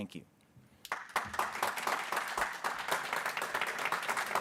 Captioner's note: people clapping